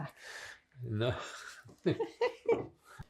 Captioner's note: laughing